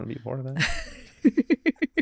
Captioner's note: laughing